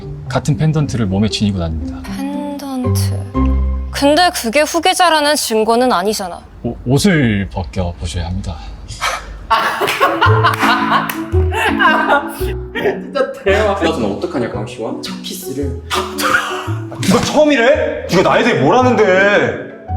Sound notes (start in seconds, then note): 9.0 Yeon-Woo sighs; 9.5 Ga-Ram laughing and clapping